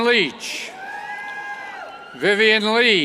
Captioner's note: cheers